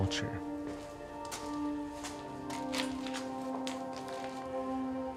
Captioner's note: footsteps on rock